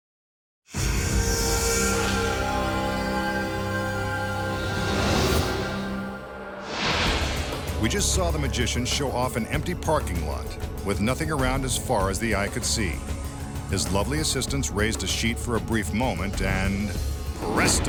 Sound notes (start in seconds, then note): 0.3 dramatic instrumental music; 6.6 light beam swishing